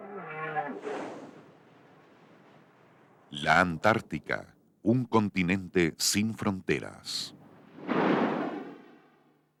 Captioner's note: whale singing